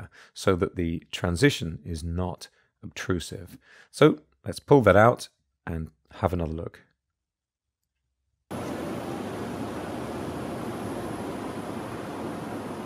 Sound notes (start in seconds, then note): 8.5 city buzzing